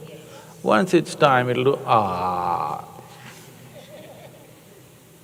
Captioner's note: laughter